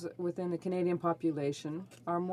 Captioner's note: speaking French